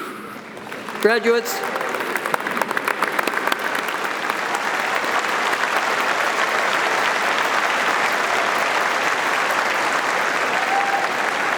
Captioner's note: audience applauding